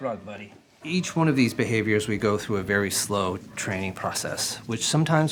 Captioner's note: narrating